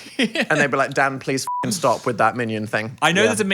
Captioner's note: beeps